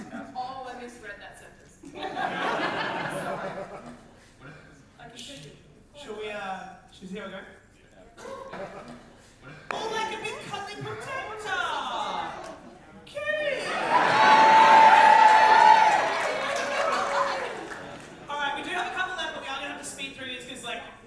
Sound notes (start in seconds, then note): 13.5 audience cheer